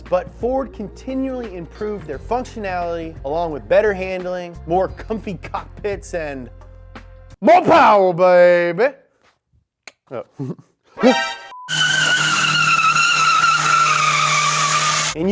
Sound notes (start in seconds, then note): 9.8 clicks tongue; 10.4 chuckles; 11.7 tires screeching